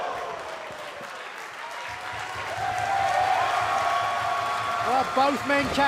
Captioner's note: crowd cheering